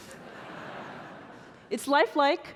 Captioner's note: audience laughing